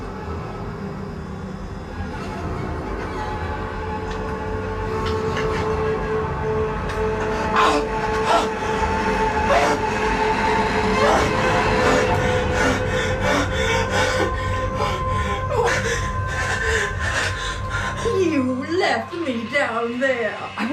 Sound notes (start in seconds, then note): 7.7 Billy whimpering